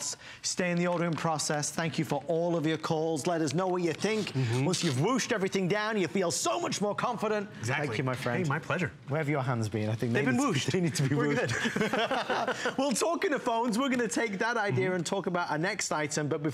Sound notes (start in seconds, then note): 11.1 laughter; 14.8 laughter